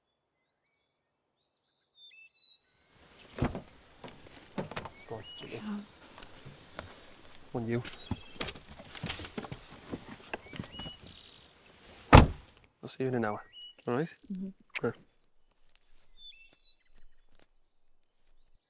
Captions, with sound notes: (door clicking) - Come on, you. (door clicking) I'll see you in an hour. All right? (birds chirping)